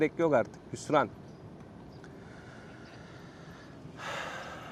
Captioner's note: sighs